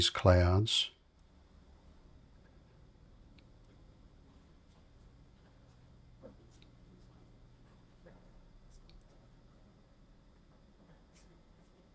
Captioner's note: silence